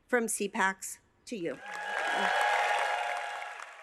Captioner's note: cheers and applause